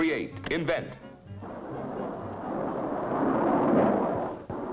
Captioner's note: engine whirring